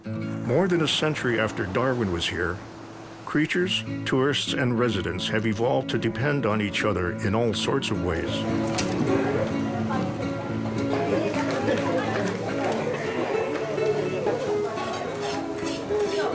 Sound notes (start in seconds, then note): 8.0 crowd chattering; 11.2 soft guitar music